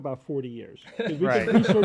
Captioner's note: laughter